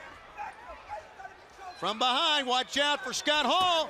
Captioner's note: crowd chatter